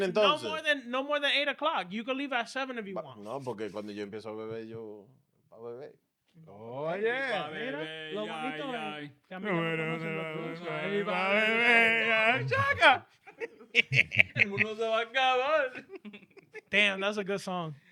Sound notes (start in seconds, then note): 14.3 laughing